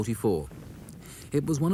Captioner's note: shell booms